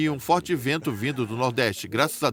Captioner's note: laughter